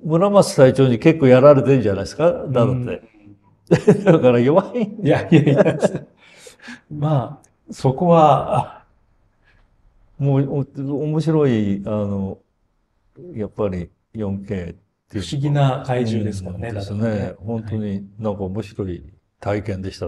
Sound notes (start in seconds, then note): 3.6 laughs